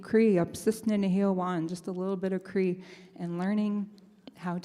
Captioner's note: speaks in Native language